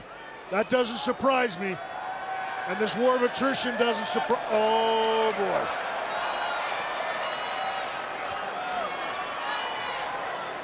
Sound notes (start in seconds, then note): 5.9 crowd clamoring